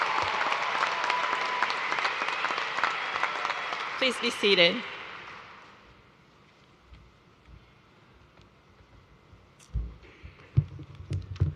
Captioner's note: cheers and applause